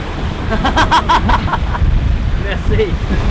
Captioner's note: laughing